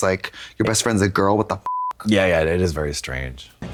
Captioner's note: beep